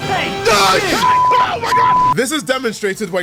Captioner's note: yelling